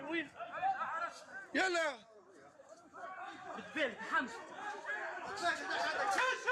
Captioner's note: people yelling in foreign language